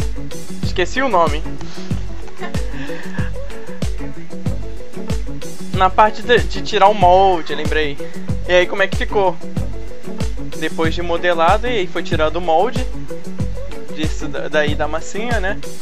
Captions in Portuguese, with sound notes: esqueci o nome (risos) na parte de tirar o molde, lembrei e aí como é que ficou depois de modelado e foi tirado o molde disso daí da massinha né?